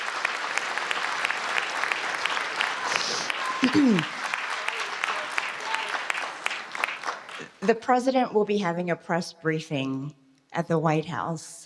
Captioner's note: applause